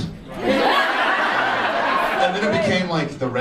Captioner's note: audience laughs